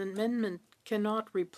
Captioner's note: speaking French